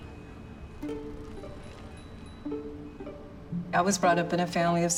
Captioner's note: bell trilling